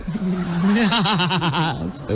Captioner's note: laughing